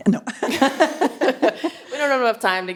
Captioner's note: chuckles